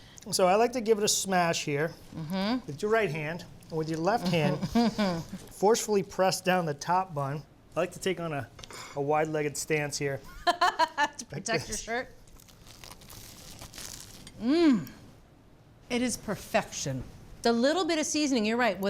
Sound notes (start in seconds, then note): 10.4 laughs; 12.2 sandwiches crunch